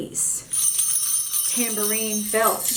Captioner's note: bells jingling